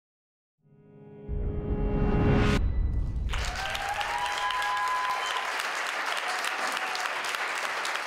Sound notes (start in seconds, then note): 1.6 extended incremental whoosh; 3.2 crowd clapping and cheering